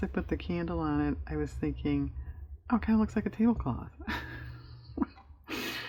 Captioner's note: laughs